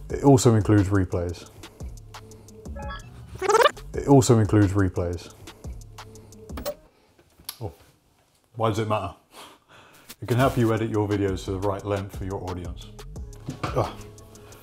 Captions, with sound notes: It also includes replays. (tape rewinding) It also includes replays. Why does it matter? It can help you edit your videos to the right length for your audience.